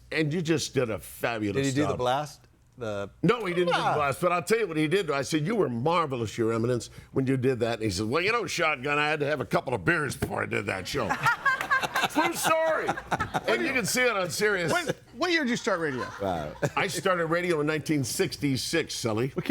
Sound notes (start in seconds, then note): 11.0 group laughing